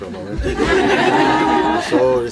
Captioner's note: more laughter